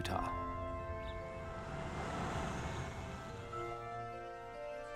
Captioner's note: birds chirping; light music continues